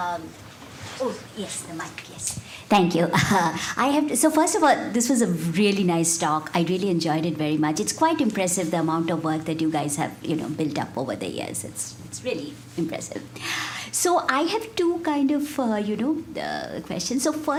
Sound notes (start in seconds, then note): 3.1 chuckles